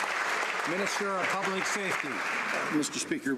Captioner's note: some Applause